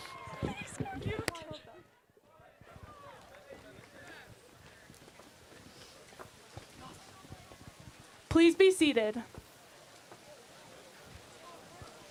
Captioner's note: cheers and applause